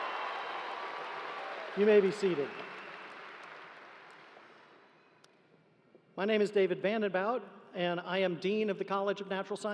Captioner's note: cheering